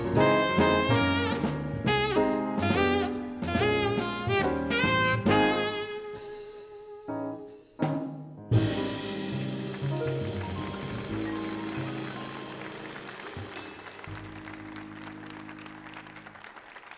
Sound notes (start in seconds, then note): 7.5 upbeat jazz music fades; 8.9 audience applauds